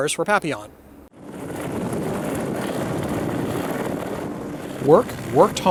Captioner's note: helicopter blades whirring